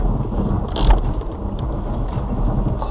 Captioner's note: handbrake sound